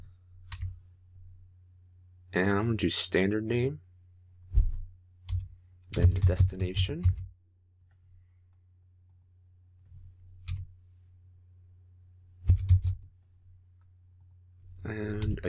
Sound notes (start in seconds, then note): 12.4 typing